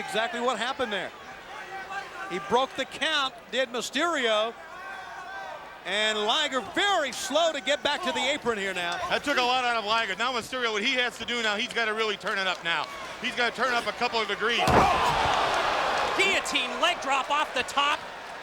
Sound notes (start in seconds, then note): 14.7 crowd exclaiming